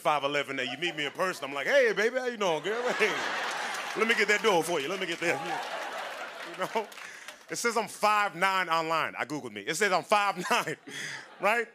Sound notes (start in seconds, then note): 2.6 laughter and applause; 5.7 laughter